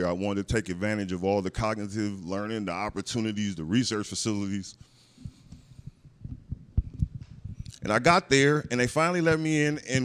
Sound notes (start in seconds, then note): none